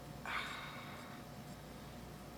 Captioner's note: deep sigh